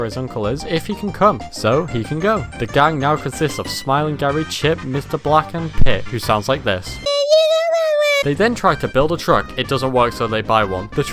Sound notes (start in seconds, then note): 7.1 high pitched gibberish